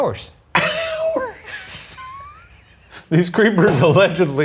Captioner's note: laughs